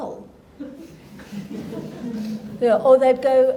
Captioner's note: audience laughing